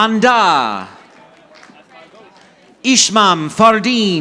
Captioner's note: audience applauding